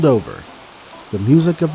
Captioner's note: waterfall flowing